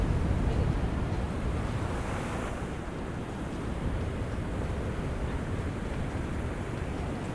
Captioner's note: sound of waves